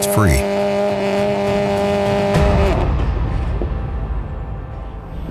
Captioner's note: car engine revving